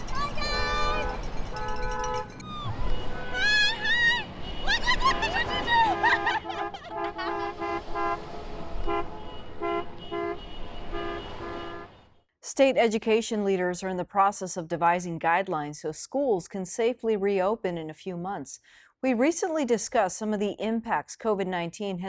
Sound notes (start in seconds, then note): 6.4 laughing; 8.0 cars honking